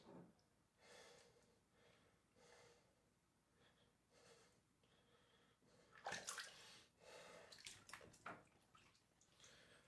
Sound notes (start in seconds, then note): 6.1 water splashes